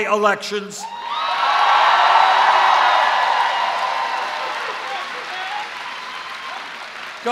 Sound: cheers

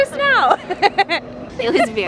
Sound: audible laughing

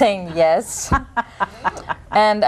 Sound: chuckles

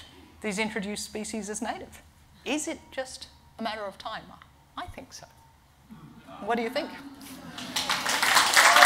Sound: clapping

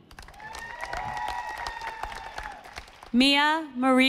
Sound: audience applauding

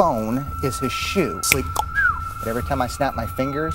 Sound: cluck-snap-whistle!

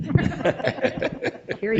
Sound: laughs

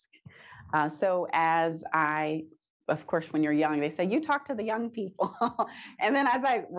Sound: chuckles

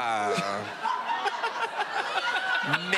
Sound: laughing

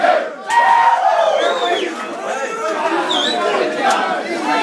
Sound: cheers

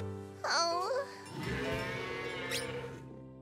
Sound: mooing

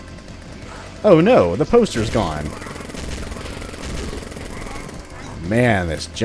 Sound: sarcastically

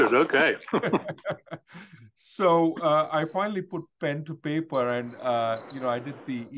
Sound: laugh

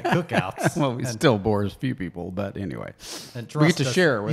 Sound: laughs

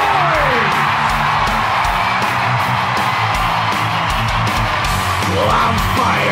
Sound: crowd Cheer

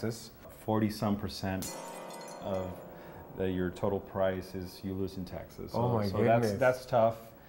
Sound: scary sound effect

